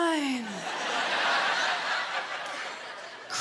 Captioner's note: laughter